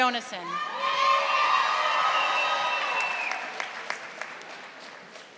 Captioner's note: audience applauding